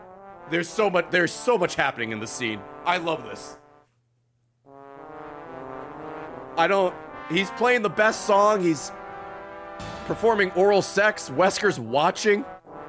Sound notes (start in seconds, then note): none